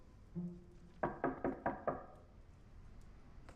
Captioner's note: knocking